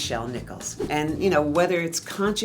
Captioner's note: air whooshing